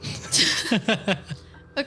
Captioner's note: laughing